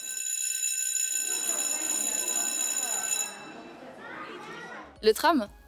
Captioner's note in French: bruit de sonnette